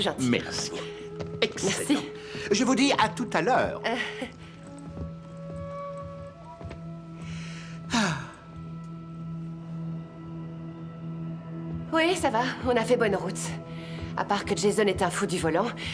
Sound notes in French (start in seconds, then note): 7.2 soupire de satisfaction